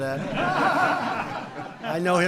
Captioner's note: laughter